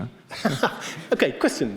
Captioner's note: chuckles